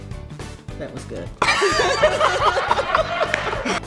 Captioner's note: laughing